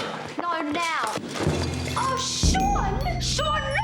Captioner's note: yelling